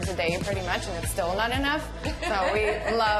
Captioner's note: laughs